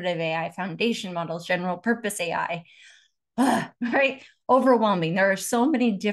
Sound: sighs

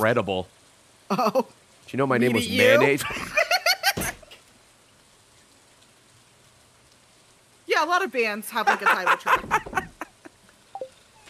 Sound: both laughing

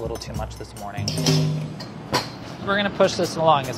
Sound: clanging

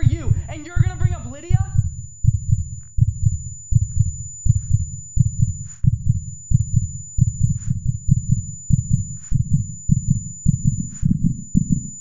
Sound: heartbeat sound begins

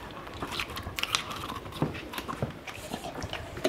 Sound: crunching

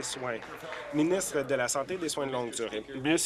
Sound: applause

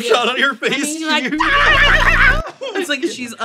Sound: chitters

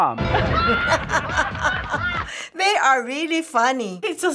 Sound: laughing

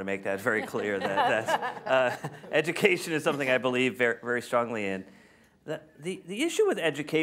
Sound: laughter

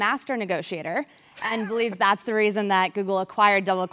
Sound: laugh

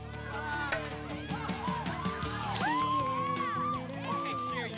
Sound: cheering

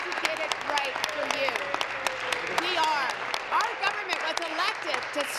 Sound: applause

